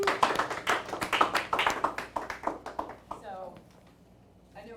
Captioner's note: scattered applauding